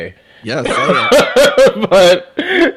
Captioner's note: laughs